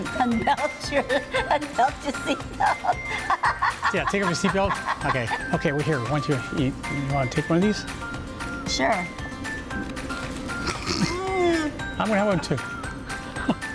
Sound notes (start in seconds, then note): 2.0 laughs; 10.6 snorts; 10.6 groans